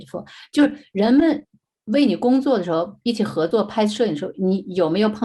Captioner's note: speaking in foreign language